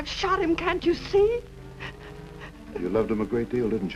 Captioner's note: sobs